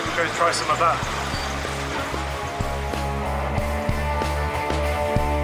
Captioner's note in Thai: เสียงปรบมือ